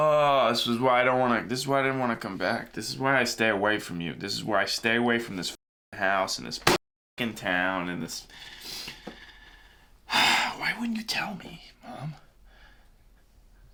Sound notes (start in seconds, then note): 9.5 sighs